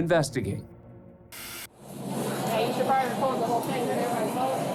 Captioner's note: chatter